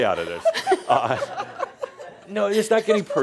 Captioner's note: laughter